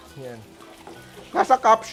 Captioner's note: sizzles